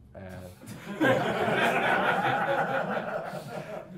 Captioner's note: class laughing